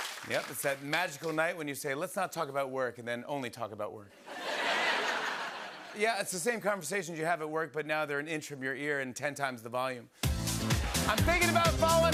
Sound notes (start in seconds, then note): 4.2 laughter